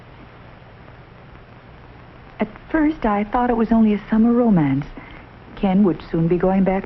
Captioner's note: voiceover